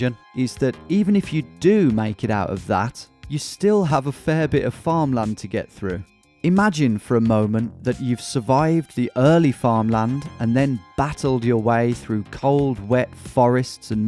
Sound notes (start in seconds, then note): none